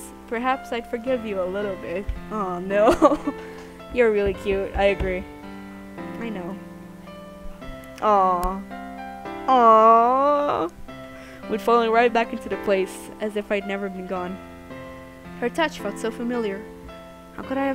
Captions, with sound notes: Aww, no! *laughs* I agree. Aww! AWW!